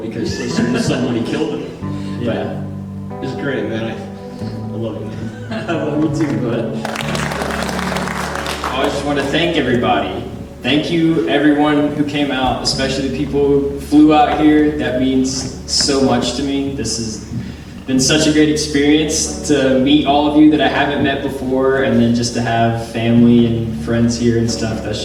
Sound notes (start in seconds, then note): 5.9 audience applauding